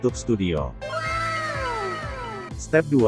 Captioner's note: anime wow sound